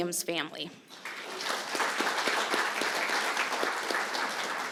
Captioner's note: applause